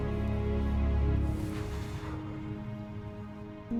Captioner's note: exhales